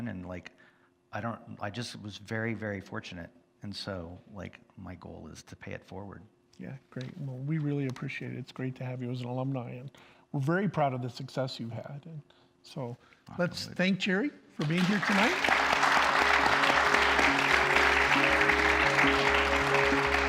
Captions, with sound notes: And, like, I just was very, very fortunate. So, like, my goal is to pay it forward. - Yeah, great. We really appreciate it. It's great to have you as an alumni. We're very proud of the success you had. Let's thank Jerry for being here tonight. (audience applauds) (gentle music)